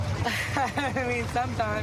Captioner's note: laughs